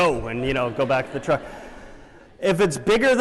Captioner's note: laughter